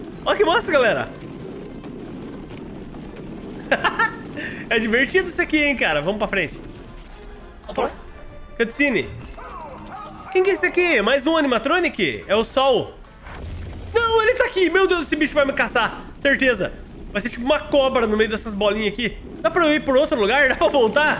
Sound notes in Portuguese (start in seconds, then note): 3.6 risos